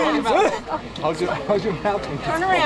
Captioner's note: coughing